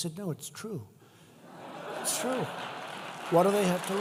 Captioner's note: laughter